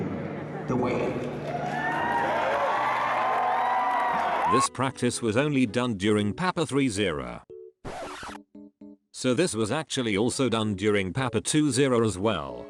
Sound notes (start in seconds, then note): 7.8 record scratch